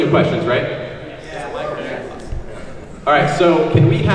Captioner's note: audience yeses